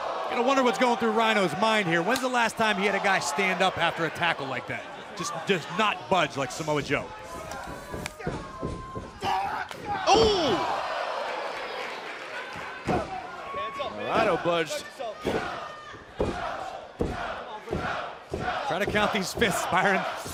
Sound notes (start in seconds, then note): 11.1 applause; 16.7 fans chanting